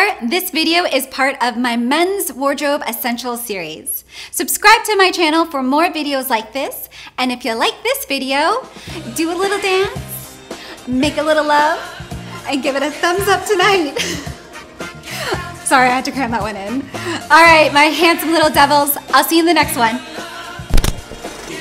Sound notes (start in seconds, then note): 13.9 laughs